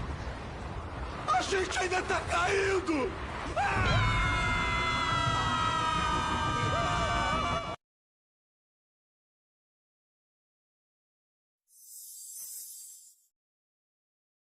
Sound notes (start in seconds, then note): 3.5 screams; 11.7 star twinkling sound fades